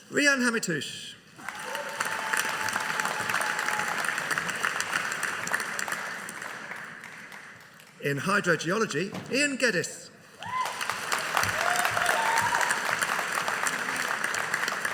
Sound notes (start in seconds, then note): 1.4 audience applauding; 10.4 audience cheering